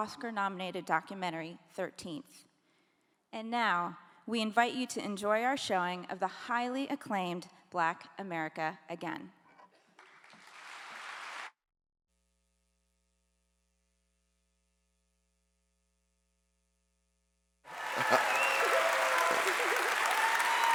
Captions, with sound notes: Oscar-nominated documentary, 13th. And now, we invite you to enjoy our showing of the highly acclaimed Black America Again. (clapping)